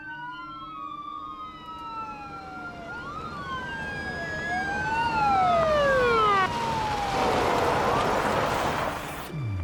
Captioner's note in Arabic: صفارات الإنذار، تقترب; صفارات الإنذار تقترب، تقترب